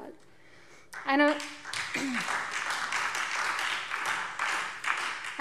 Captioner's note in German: Beifall Freie Demokraten, SPD und DIE LINKE